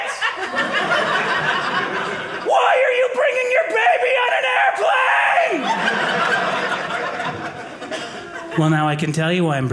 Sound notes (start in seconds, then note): 0.0 audience laughing; 5.5 audience laughing